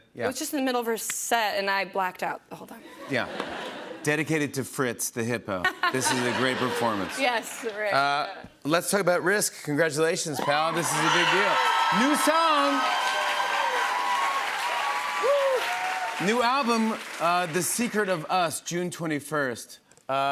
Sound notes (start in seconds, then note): 13.2 cheers and applause